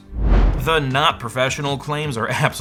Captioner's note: air whooshing